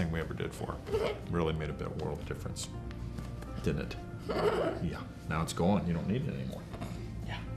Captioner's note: laughs